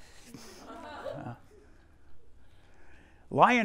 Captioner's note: student laughing